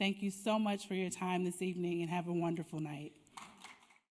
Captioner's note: applause